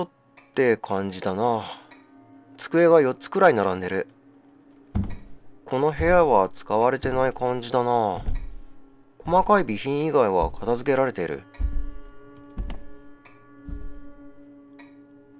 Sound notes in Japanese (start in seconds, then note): 5.8 足音：ﾄﾝ…ﾄﾝ…